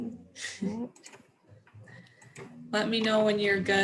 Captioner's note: chuckles